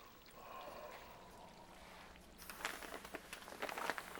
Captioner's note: Bill sighs